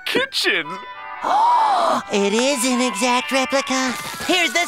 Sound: gasping

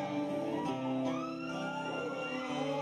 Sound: audience cheering

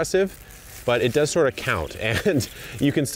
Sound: laughs

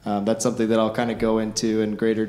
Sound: none

